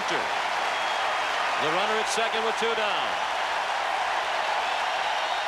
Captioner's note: applause